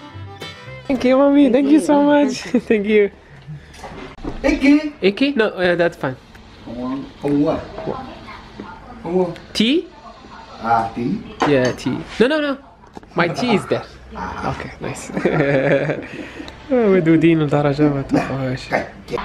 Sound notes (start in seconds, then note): 15.1 laughs